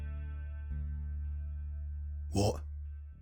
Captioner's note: low voice, lightly confused